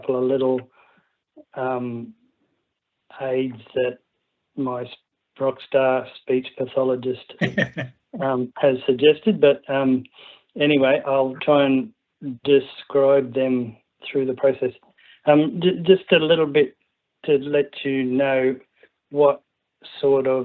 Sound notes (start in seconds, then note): 7.4 laughs